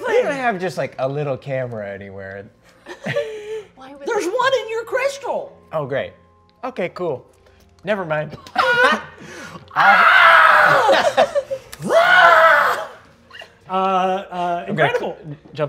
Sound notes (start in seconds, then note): 8.4 laughing; 9.8 screaming